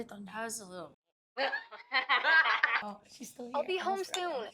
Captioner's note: Becca and Zoey laughing